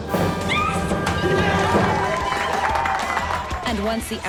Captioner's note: cheering; applause